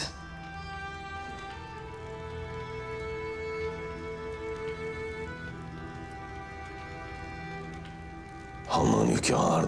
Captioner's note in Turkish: Ateş Çıtırtısı Sesleri